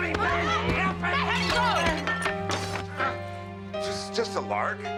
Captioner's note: shattering